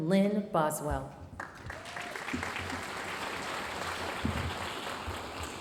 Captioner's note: audience applauding